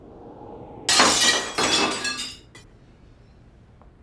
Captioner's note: window breaks